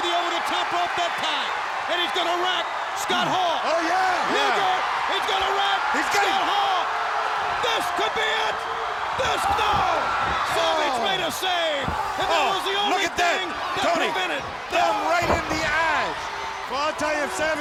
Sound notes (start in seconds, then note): 4.1 crowd cheering; 8.4 blows thudding; 17.3 body thudding